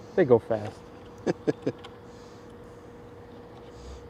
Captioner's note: laughing